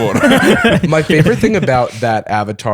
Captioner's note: laughter